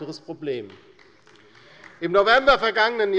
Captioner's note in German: Beifall bei Abgeordneten der LINKEN